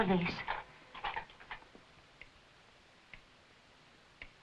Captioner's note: clock ticking